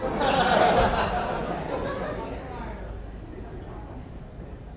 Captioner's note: audience chuckles